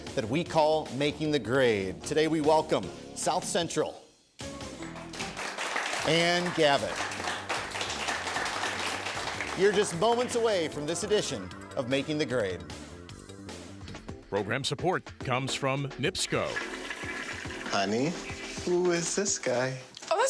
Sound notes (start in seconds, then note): 7.1 applause; 16.2 toilet flushing